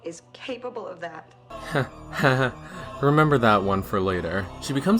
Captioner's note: chuckles